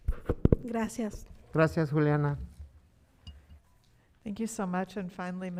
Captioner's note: speaking in foreign language